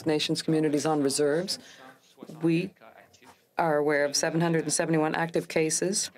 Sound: speaking french

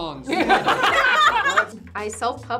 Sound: group laughs

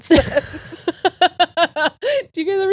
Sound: both laughing

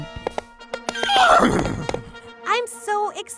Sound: trumpet fanfare; hoofbeats; horse whinnies

